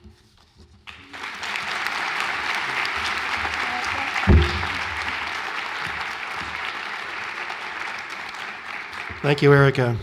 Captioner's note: applause